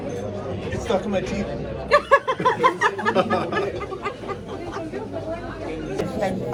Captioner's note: laugh